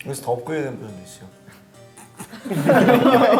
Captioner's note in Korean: 흐읍